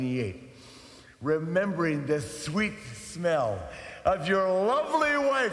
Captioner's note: inhales